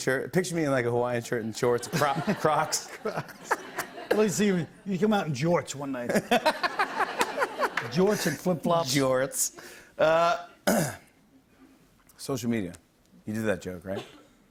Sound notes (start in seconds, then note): 6.2 laughs